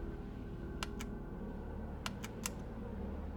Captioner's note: continues</i> <i> Clicking Buttons